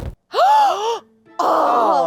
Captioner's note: gasping